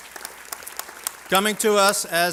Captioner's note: applause